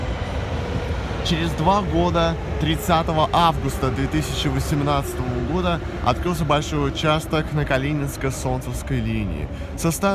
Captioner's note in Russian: прибытие поезда на станцию